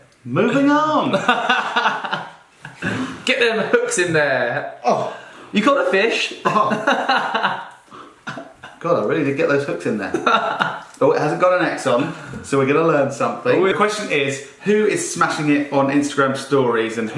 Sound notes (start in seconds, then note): 0.0 laughing; 5.9 laughing; 10.0 laughing